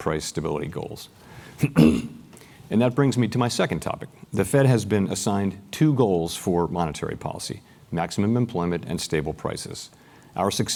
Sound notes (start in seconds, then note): 1.6 cough